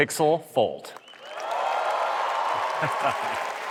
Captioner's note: applause